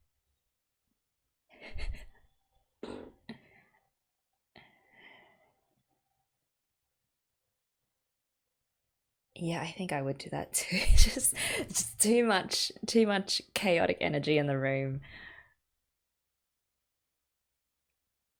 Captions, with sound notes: Yeah, I think I would do that too [laughs], just - Just too much, too much chaotic energy in the room.